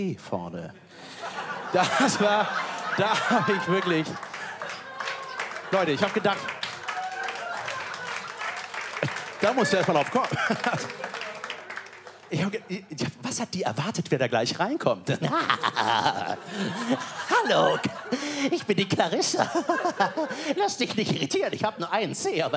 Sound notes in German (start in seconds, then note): 6.3 Applaus